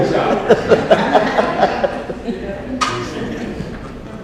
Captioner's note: audience laughs